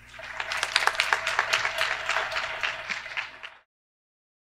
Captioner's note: audience applause